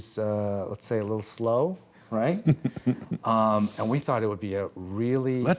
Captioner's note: laughs